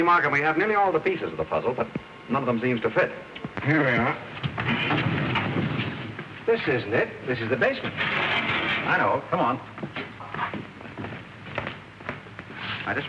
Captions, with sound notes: See Markham, we have nearly all the pieces of the puzzle, but none of them seems to fit. Here we are. [sliding door] This isn't it. This is the basement. I know. Come on.